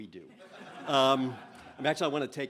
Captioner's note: laughter